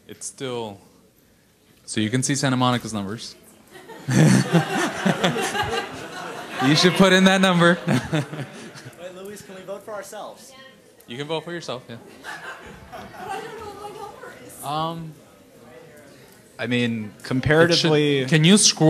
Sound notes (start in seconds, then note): 3.7 audience laughing; 11.3 voiceover; 13.4 voiceover